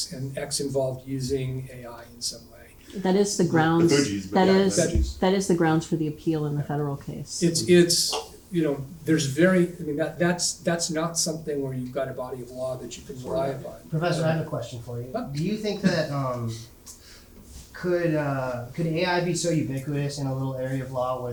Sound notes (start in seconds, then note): 4.0 panelists chatting